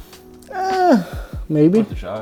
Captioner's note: sigh